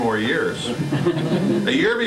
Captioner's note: laughter